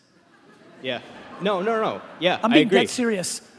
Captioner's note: laughing